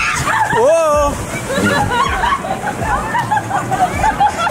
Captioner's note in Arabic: الناس يضحكون